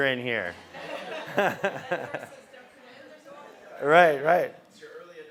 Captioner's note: laugh